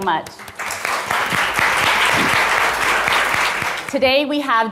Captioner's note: audience applauding